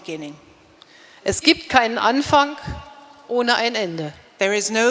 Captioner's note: speaking in German